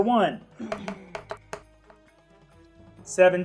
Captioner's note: die rolling